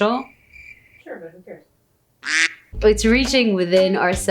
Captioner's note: crickets chirp; duck quacks